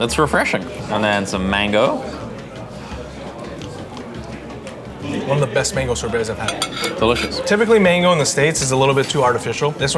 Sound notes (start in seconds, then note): 1.7 patrons chattering